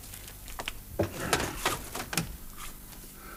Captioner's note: mutters